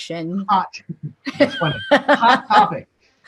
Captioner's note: laughter